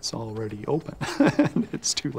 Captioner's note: laughs